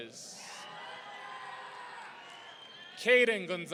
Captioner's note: audience cheering